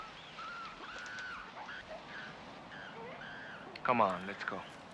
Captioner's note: animals squealing